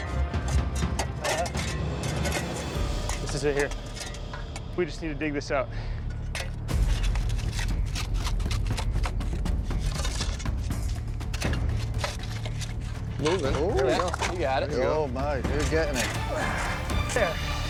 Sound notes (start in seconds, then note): 15.9 grunts